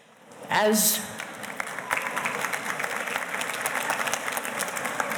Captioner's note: audience applauding